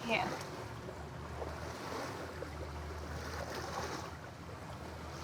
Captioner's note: waves splash